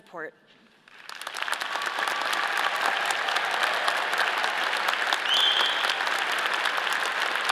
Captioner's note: all applauding; all cheering